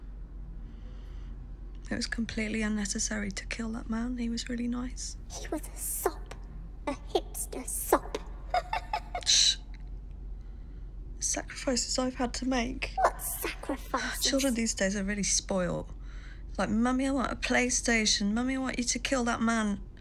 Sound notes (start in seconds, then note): 5.5 baby's voice; 6.8 laughs